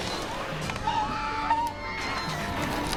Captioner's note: scream